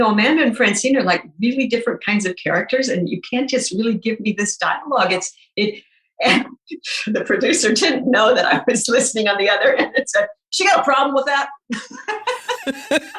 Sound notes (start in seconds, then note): 6.9 laughing; 11.8 laughing